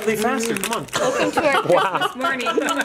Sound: laughing

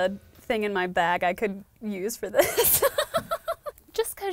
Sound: laughs

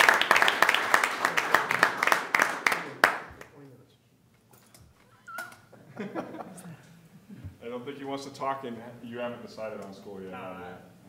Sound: applause

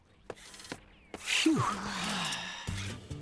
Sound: sighing

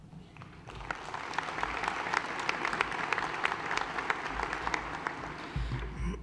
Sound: applause

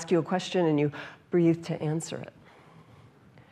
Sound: loud inhale; gasp

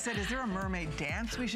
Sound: laughter

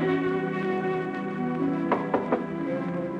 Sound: knocking

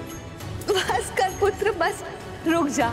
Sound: giggles

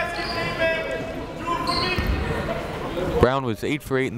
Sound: chatter

